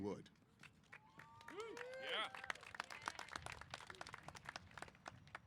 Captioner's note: applause & Cheers